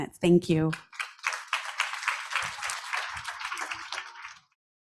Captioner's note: audience applauds